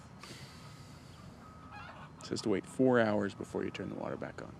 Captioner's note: sighs